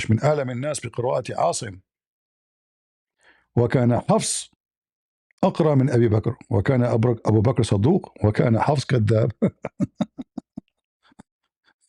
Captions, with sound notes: (Arabic) Ask him, "What kind of what kind of Abu Bakr? What kind of... kadab [laughter]